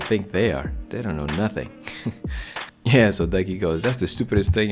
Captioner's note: laughs